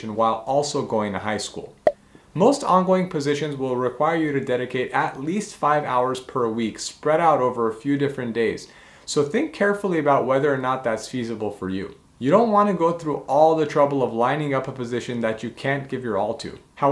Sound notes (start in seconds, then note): 1.9 bubble popping